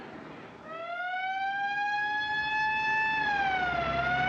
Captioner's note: siren Blaring